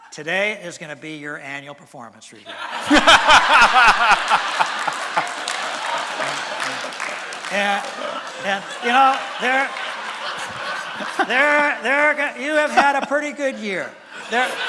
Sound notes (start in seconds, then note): 2.9 laughter and applause from audience; 9.6 laughter from audience; 14.4 laughter from audience